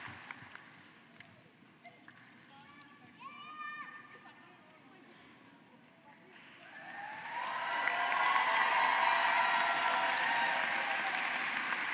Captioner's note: cheering and applause